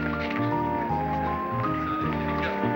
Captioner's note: chattering